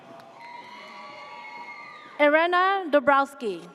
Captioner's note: audience cheers